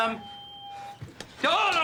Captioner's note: staticky feedback